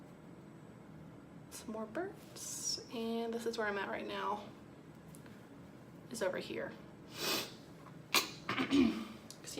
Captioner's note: clears throat for the billionth time